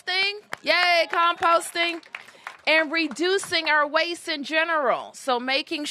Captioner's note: applause